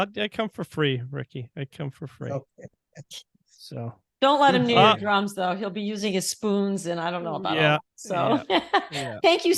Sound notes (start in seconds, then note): 3.0 laughing; 8.7 laughing